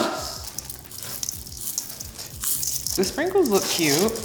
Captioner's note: sprinkles pouring